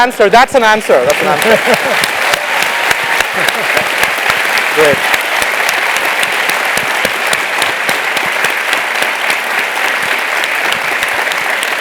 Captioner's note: applause; laugh